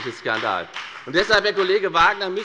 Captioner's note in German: Beifall bei der FDP